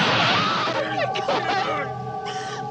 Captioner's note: Lisa screams